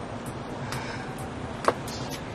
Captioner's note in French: Ellie sighs